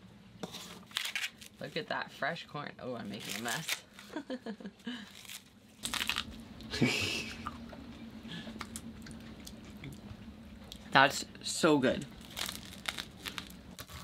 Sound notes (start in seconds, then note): 0.8 corn husks tearing; 5.1 laughs; 6.7 laughing; 6.7 teeth crunching raw corn